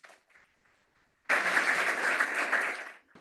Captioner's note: applause